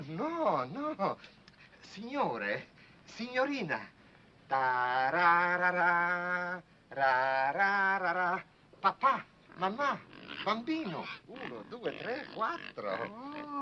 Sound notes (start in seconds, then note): 1.5 speaking foreign language; 4.7 hums " "; 10.8 speaking foreign language